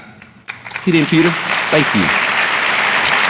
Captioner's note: audience applauds